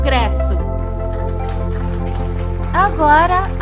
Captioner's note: applause